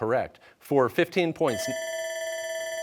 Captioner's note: bell ringing